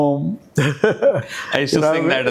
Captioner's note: laugh